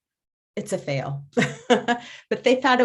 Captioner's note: laughs